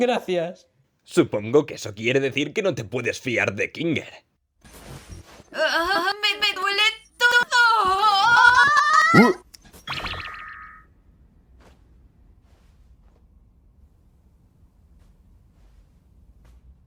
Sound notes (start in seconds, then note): 5.3 voice glitching, stuttering